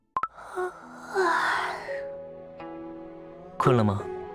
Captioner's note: yawn…